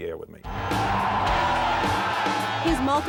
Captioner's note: crowd cheering